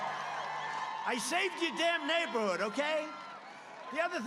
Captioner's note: cheers and Applause